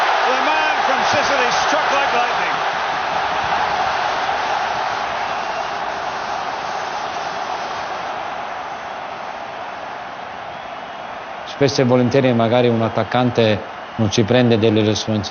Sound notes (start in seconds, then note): 5.0 crowd cheering; 5.0 horns blowing